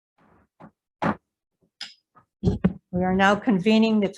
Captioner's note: gavel bangs